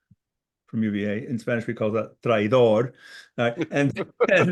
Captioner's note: speaking in Spanish